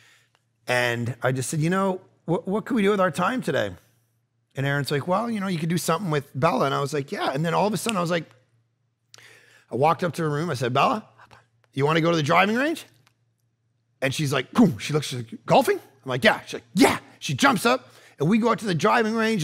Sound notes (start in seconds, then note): 8.5 fingers snap